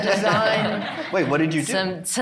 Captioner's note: all laughing